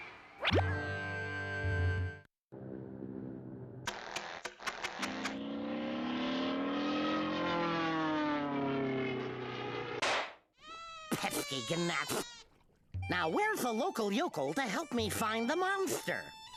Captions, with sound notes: [plane engine humming] [engine sputtering] PESKY GNATS! NOW WHERE'S A LOCAL YOKEL TO HELP ME FIND THE MONSTER?